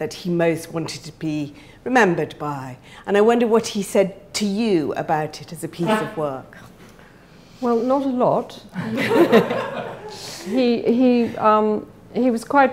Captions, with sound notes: that he most wanted to be remembered by, and I wondered what he said to you about it as a piece of work. Well, not a lot. (laughing) He was quite private.